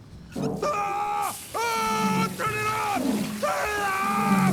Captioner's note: screams